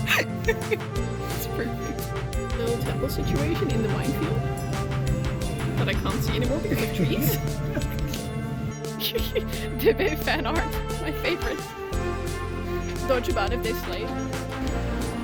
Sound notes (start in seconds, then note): 8.8 laughing